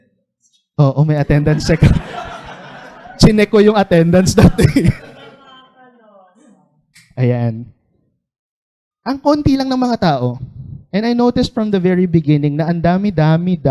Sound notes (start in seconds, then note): 1.3 laughter; 5.5 laughter continues